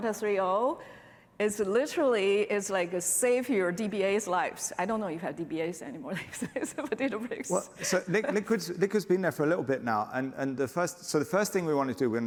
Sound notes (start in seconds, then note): 7.4 laughter